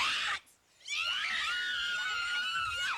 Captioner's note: screaming